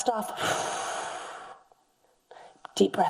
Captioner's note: exhales deeply; inhales deeply